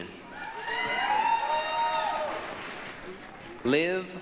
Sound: applause, cheering

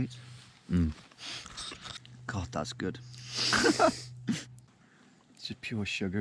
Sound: chuckling

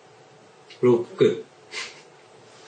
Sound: chuckles

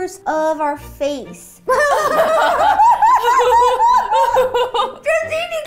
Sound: gigglepalozza

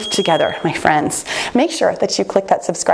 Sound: bell chimes

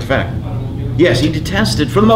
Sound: student off mic

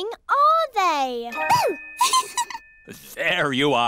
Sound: giggles

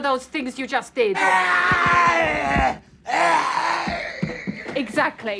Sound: screaming

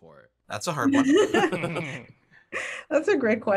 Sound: laughs

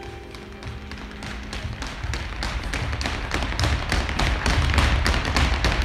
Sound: feet stomping on ground

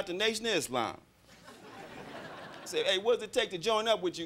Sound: crowd laughing

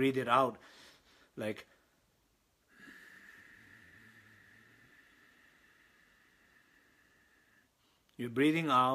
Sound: exhales

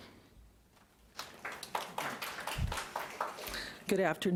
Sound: audience applauding lightly

